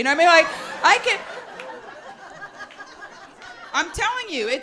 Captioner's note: audience laughs